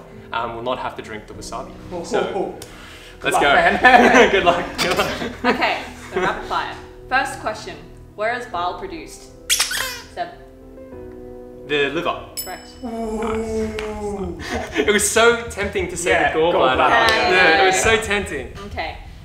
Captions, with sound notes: will not have to drink the wasabi. So, let's go. Good luck. Good luck. - Okay. First question. Where is Bile produced? (squeaks) Seb. The liver. - Correct. - Ooh! - Nice. - It was so tempting to say the gall bladder. It's so tempting. - Okay.